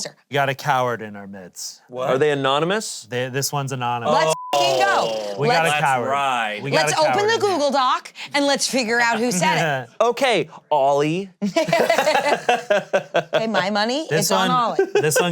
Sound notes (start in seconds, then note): 11.4 all laughing